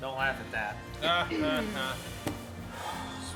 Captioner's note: uninspired Laughter